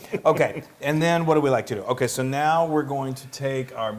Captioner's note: laugh